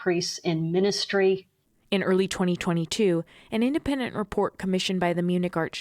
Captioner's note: voice-over